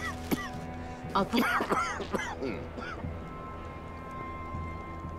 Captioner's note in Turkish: Öksürük sesi